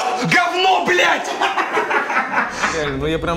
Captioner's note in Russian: смех